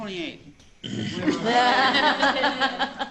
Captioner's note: laughing